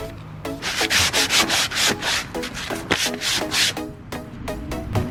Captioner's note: sanding